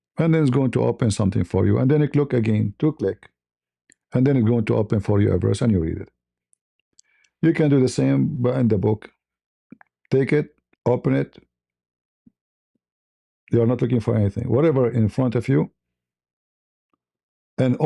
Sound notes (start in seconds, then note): none